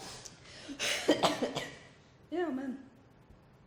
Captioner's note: coughs